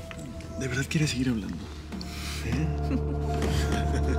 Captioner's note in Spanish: Risas